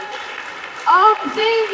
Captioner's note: audience applauding